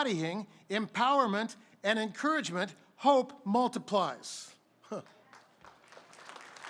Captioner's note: applause